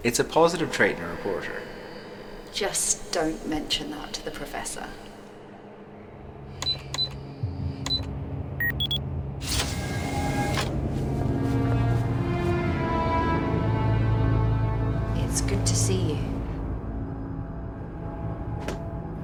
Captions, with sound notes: It's a positive trait in a reporter. - Just don't mention that to the professor. (buttons beeping) (door whirring) (dramatic orchestral music) It's good to see you.